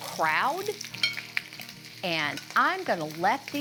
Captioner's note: food crackling